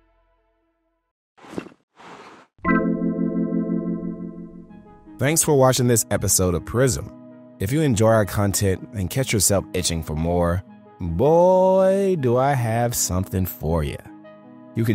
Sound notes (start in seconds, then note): 1.4 graphics clunking; 2.6 graphics chiming